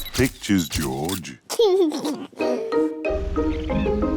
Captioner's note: laughs; giggles